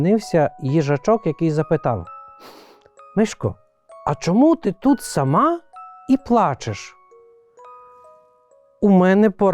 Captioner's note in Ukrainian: сопіння